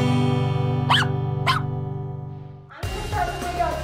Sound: laughs; barking; upbeat music

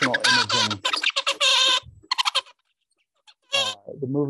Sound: bird singing

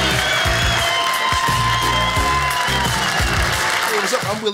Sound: audience cheers

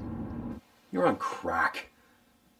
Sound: wind blowing

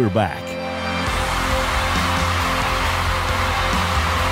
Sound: crowd cheering

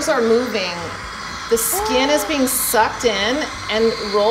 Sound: gasp

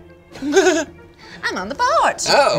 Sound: he laughs

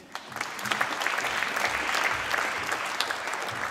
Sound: applause

